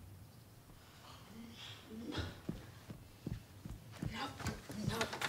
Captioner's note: grunting; footsteps plodding